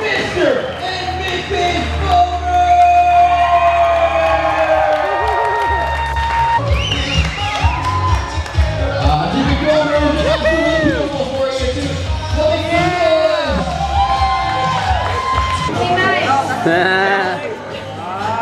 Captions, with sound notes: Mr. And Mrs. Folmer! (cheering) (upbeat music)